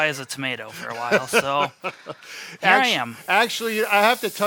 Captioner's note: laughing